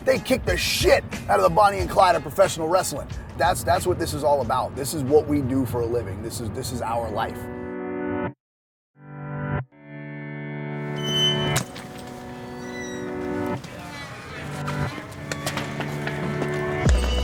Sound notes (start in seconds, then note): 7.4 ominous music playing; 8.4 silence; 9.3 ominous music playing; 10.8 squeaking sound; 11.8 thump; 12.7 ominous music playing